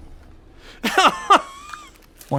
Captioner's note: laughs